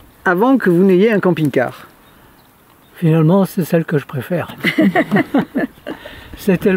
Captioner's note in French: rires